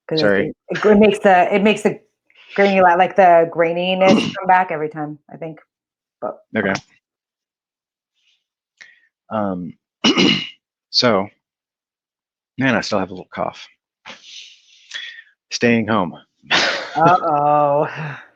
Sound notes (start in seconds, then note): 10.0 clears throat; 16.6 laughs